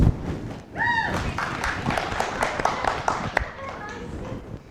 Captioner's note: audience cheers